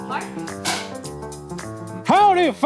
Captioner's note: board clicking